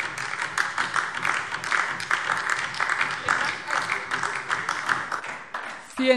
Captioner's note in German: Beifall DIE LINKE